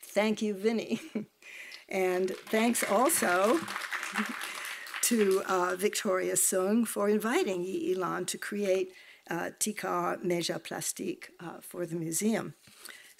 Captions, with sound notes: Thank you, Vinny. And thanks also (audience clapping) to Victoria Sung for inviting Yee I-Lann to create TIKAR/MEJA/PLASTIK for the museum.